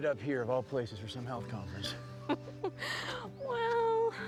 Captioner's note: laughs